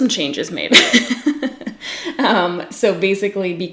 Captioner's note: laughs